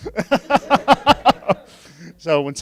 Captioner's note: laughing